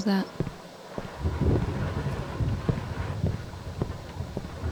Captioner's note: lightning and rain continue